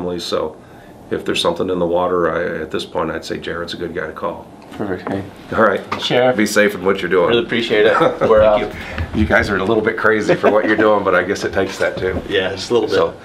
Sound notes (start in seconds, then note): 5.2 muttering